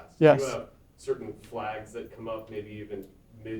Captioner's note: voiceover